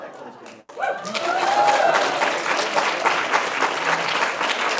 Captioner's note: applause